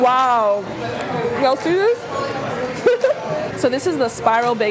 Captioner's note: laughs